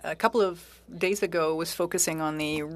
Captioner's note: speaking French